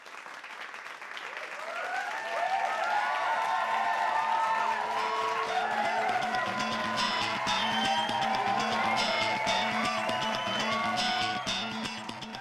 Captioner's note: applause